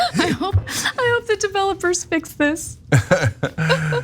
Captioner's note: laugh; laugh